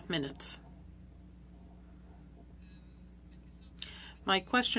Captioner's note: speaking French